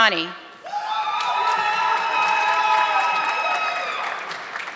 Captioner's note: audience clapping